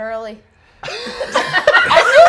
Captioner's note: laughter